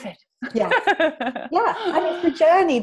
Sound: laughs

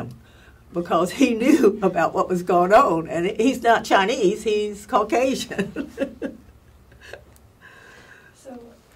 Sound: laugh

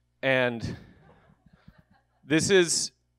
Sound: audience members laughing

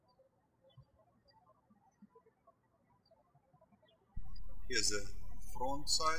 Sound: birds chirping

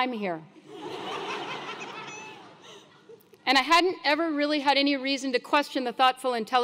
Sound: laugh

